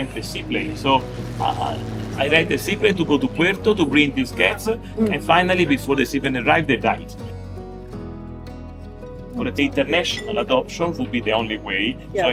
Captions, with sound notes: it is not a problem! But they didn’t allow me. In the end the only way was to rent a seaplane, so I rent a seaplane to go to Puerto to bring those cats, [propellor plane noise]and finally before the seaplane arrived they died. [sad music] international adoption would be the only way.